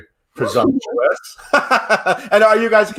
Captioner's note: laughs